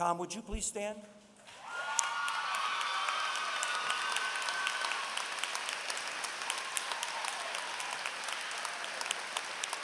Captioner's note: applause